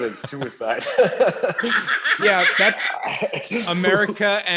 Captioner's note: laughing